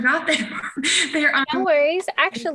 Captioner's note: chuckles